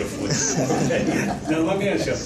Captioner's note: crowd laughing joyfully